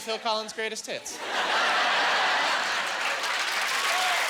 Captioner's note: laughing